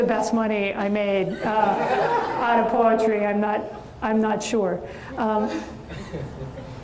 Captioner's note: audience laughs and chuckles